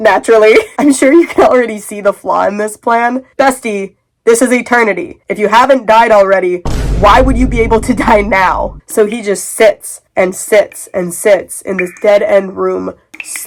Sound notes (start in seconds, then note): 6.6 boom